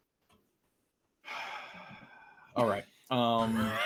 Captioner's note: sighs